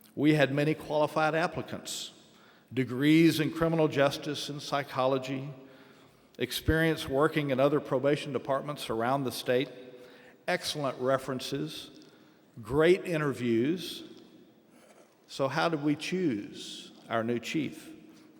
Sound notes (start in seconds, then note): none